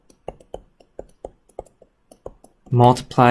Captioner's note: keyboard clicks